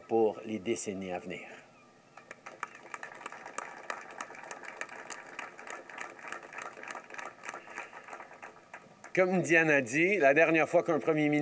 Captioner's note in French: Applaudissements